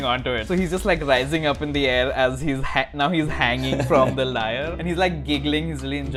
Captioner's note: laughter